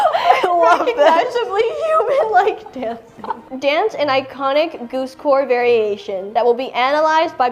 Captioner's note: laughs